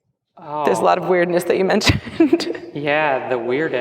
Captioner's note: laughs